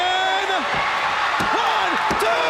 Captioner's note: crowd cheering